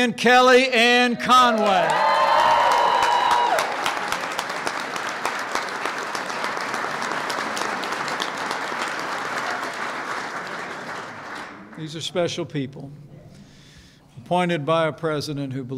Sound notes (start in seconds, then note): 1.3 applause